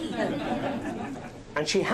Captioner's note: laughing